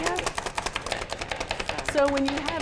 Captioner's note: chopping